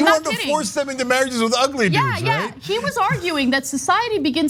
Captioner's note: laugh